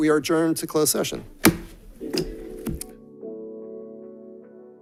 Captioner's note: gavel bangs